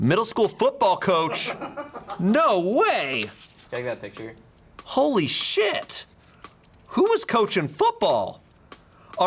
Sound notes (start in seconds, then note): 1.2 crew member laughing